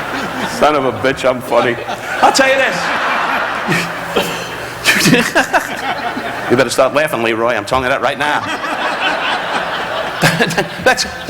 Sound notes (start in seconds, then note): 0.0 audience laughing; 3.5 Don chuckling; 8.1 audience laughing; 10.1 Don chuckling